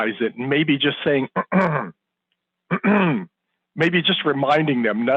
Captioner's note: clears throat